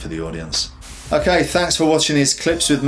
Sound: air whooshes

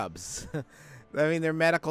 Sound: laughs

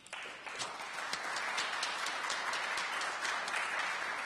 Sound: applause

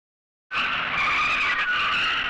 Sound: tires Screeching

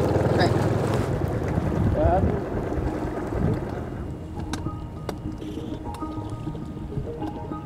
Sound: engine droning; placid music

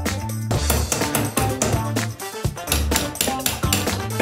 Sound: tapping

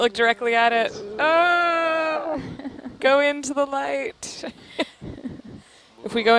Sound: laughter

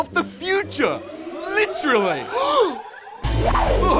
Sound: gasps

